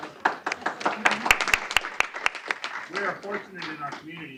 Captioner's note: applause